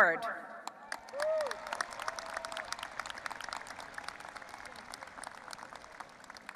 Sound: audience applauding and cheering

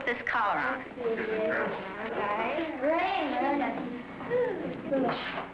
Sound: children mumble

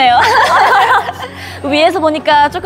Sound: laughing

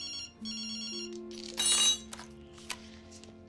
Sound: phone ringing; utensil clanging

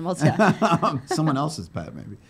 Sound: laughing

